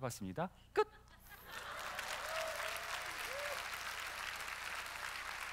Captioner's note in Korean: 웃음; 박수와 환호